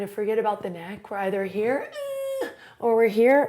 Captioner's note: groaning; straining